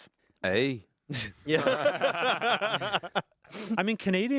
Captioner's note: group laughing